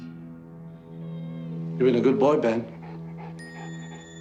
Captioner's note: Ben whines